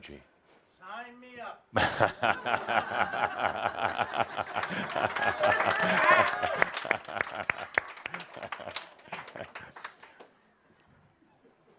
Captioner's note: shouts, “Sign me up!”; laughter and applause